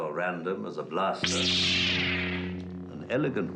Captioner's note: lightsaber buzzes